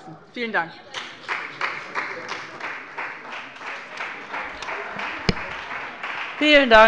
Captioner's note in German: Beifall bei dem BÜNDNIS 90/DIE GRÜNEN und der CDU